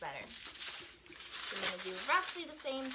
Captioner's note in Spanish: papel crujiendo